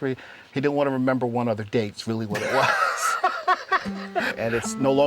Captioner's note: laughter